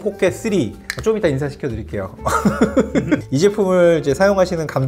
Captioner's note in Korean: 하하